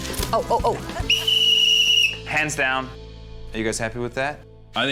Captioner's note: blows whistle